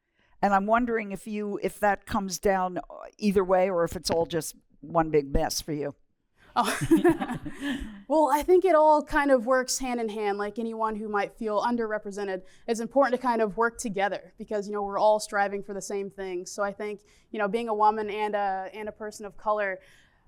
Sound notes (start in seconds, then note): 6.6 laughter